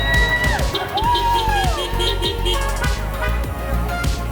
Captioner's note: crowd cheering; horns honking